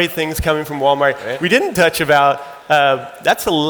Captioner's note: audience laughing